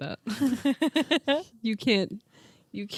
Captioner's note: laughing